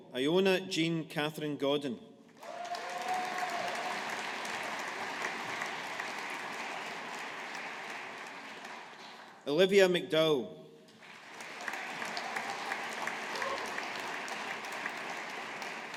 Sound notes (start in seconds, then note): 2.4 audience applauding; 11.0 audience applauding